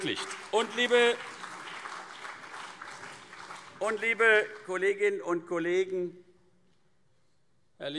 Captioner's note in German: Beifall